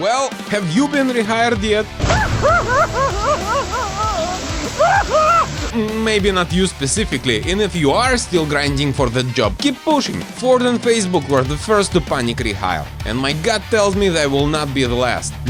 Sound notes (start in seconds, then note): 6.1 crying in the shower